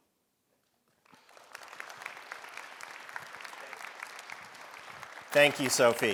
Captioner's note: audience applauding